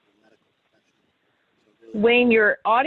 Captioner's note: faintly speaking